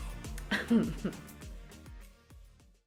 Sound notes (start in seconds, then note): 0.4 chuckles